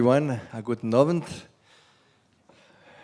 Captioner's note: non-english